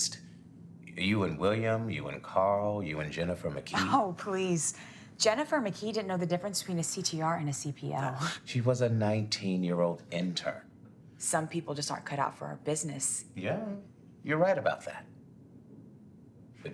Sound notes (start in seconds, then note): 3.7 laughing